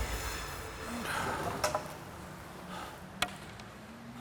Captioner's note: exhaling